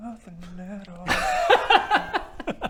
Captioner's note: laughs